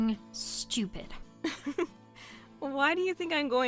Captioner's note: laughs